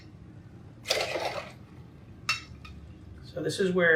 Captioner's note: drink sloshes